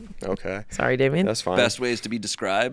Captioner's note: none